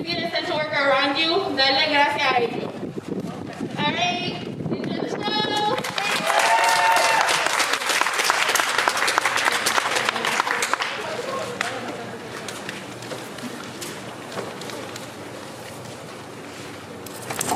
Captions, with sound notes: - All right, enjoy the show! (audience applauding)